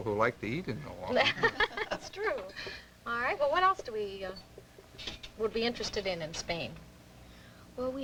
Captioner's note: laughs